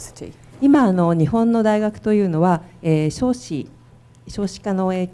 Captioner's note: speaking foreign language